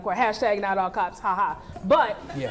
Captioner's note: laughing